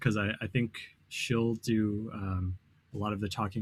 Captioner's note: none